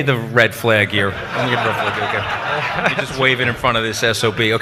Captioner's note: audience laughs